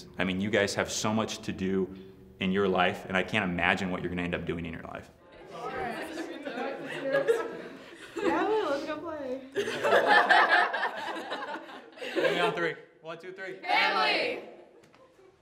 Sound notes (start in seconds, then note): 6.9 team laughing